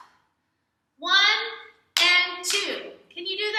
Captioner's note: clap